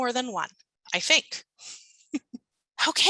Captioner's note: chuckling